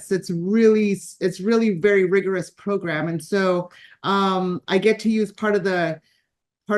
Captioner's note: none